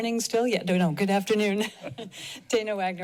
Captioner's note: laughs